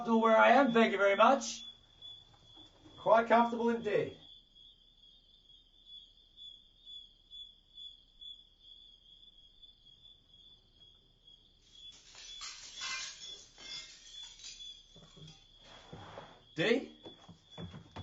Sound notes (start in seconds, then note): 11.7 metal clanging